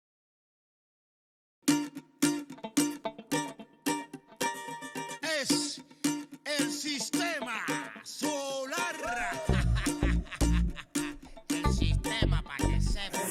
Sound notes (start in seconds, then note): 9.0 Ríe; 9.0 laughs